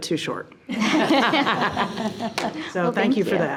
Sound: members laughing

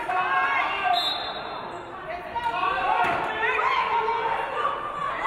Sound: referee blows whistle

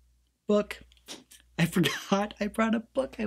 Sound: laughs

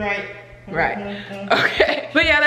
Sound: chuckles

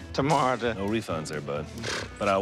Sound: sputters

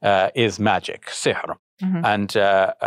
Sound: speaking in foreign language

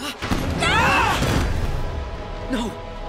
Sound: screaming

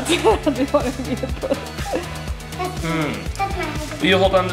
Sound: laughing; laughs

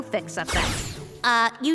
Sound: magic effect

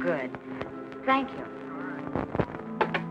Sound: on phone

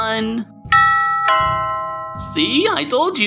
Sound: doorbell

